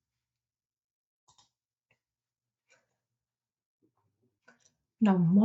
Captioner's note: silence